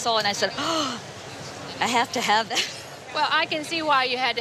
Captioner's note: gasping